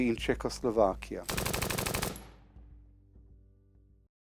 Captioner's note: machine gun fire